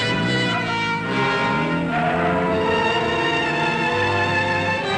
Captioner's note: tires squealing; engine rumbling